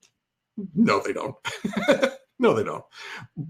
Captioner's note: laughs